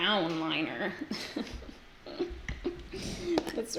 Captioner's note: giggles